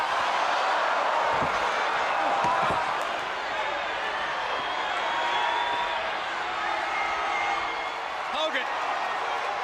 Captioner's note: crowd cheering